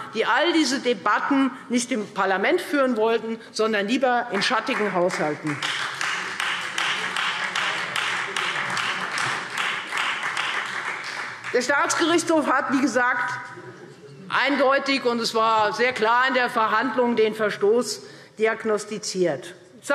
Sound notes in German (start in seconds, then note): 4.3 Beifall Freie Demokraten und SPD